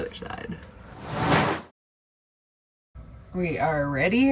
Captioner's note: screen whooshing